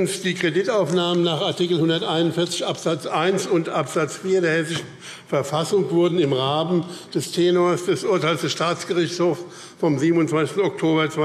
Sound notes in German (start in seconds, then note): none